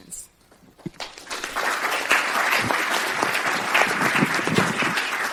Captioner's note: audience applauding